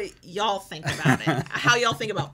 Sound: laughing

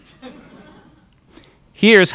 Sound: crowd laughs

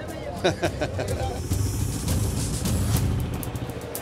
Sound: laughs

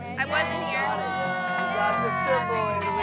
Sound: cast claps

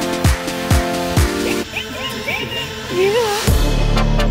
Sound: laughter

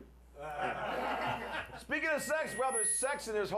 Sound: laughter

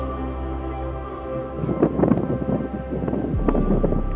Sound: wind blowing

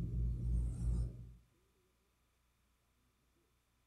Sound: silence

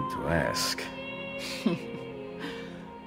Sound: Caterina laughs

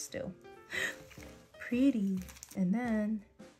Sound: gasp

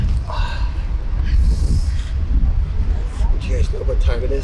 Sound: sighs

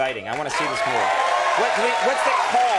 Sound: scattered whooping; audience hollering

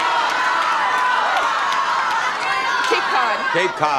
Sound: audience shouting

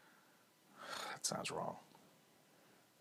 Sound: sighs

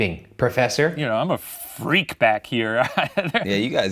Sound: laughs

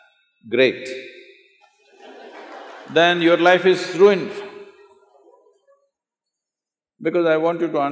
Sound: laughter

